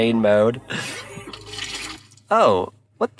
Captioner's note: car engine humming; laughs; water sloshing